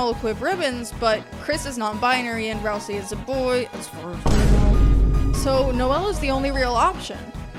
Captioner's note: boom